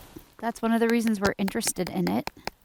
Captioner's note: tapping snow with tube